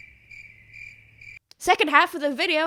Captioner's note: crickets